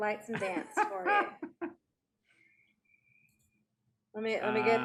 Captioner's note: Auryn laughing